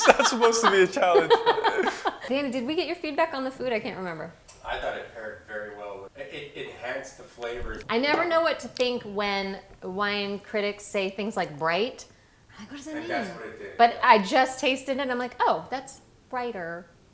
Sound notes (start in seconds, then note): 0.0 laughing